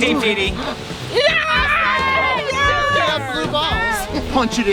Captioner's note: campers cheering